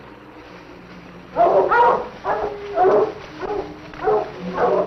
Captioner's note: dogs barking